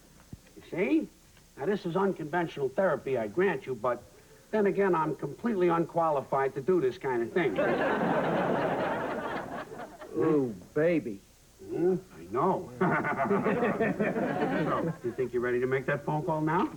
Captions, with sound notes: YOU SEE? NOW, THIS IS UNCONVENTIONAL THERAPY, I GRANT YOU BUT THEN AGAIN, I'M COMPLETELY UNQUALIFIED TO DO THIS KIND OF THING. OOH, BABY. EH? I KNOW. ( both snickering ) SO, YOU READY TO MAKE THAT PHONE CALL NOW?